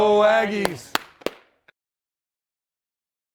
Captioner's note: clapping